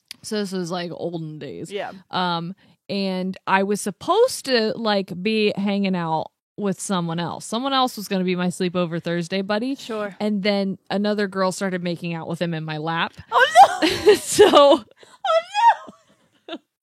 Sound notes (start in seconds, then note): 13.4 laughs